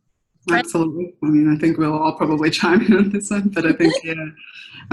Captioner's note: laughter